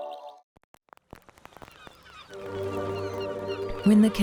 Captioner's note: seagulls calling